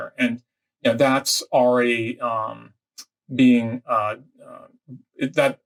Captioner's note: murmurs